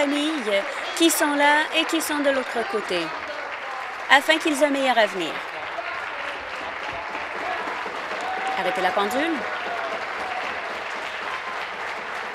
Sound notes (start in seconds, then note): 0.0 applause; 5.2 applause; 8.4 voice fading; 11.9 applause